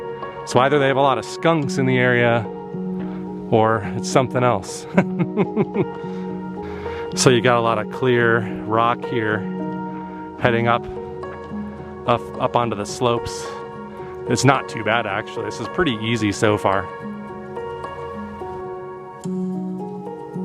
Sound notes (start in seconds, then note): 4.8 laughter